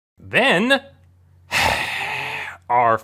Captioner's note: sigh